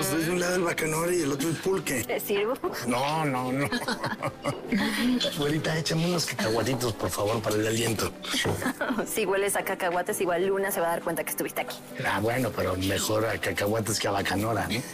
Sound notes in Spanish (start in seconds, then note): 3.5 Risas